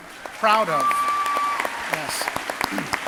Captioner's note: crowd cheering